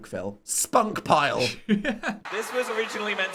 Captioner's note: laughing